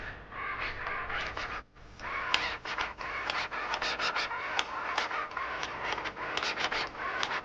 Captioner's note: record scratching